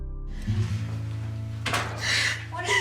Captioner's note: crying